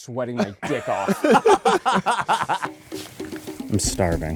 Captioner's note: all laugh